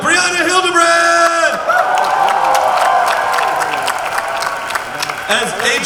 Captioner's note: crowd cheering